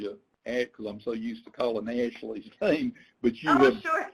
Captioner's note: laughs